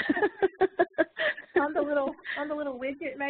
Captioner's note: woman laughing